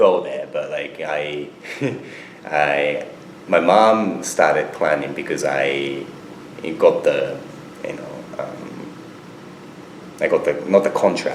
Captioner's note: laughs